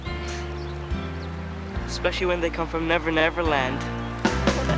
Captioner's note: laughs